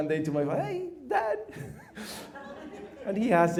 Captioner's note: laughter